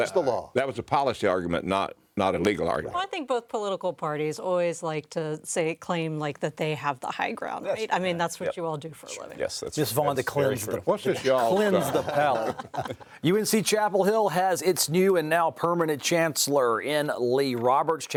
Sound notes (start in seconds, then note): 13.6 pundits laughing